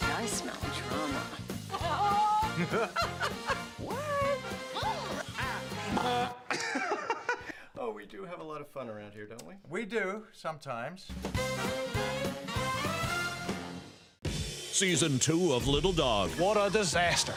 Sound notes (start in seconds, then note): 1.6 laughing; 6.2 mimics horn; 7.0 laughing